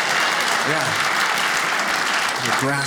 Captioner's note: audience laughs